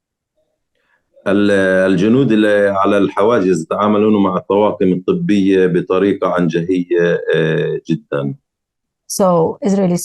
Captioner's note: speaking arabic